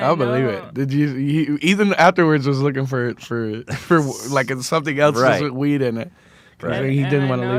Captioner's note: laughs